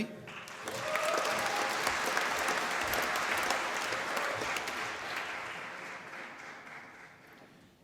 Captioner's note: applause